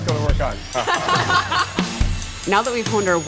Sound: laughter

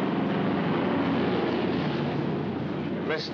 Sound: aircraft rumbles overhead

